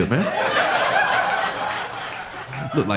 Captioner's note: audience laughing